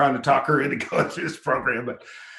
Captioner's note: chuckles